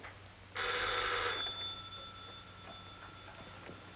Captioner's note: phone ringing